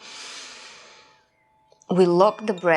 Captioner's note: inhaling